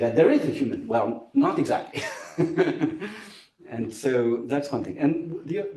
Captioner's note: laughs